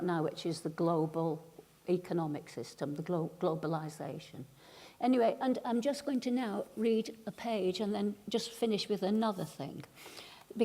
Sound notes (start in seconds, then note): none